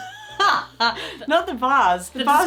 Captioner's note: laughing